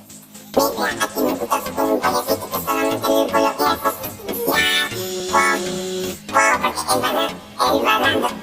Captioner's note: Alvin and the chipmunks beatbox